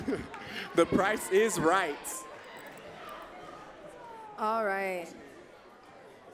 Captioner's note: laughs